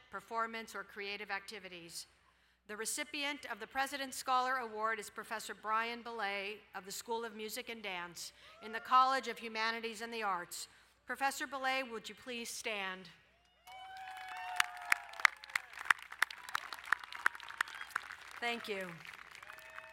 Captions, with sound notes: performance, or creative activities. The recipient of the President's Scholar Award is Professor Brian Belet of the School of Music and Dance in the College of Humanities and the Arts. Professor Belet, would you please stand? (cheering and applauding) Thank you.